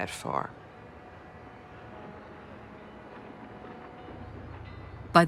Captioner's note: ship horns blowing